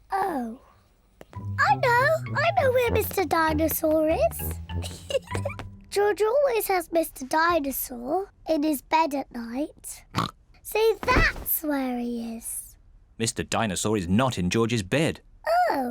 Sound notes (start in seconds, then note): 4.8 giggles; 10.3 snorts